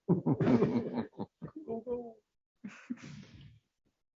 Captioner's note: laughter